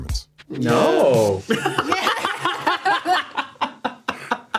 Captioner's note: laughs